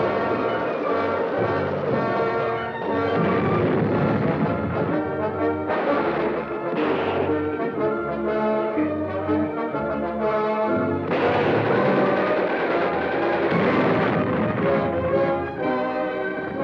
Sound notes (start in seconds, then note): 0.3 dramatic orchestral music; 3.5 bomb explodes; 6.0 gunshots blasting; 13.7 bombs explode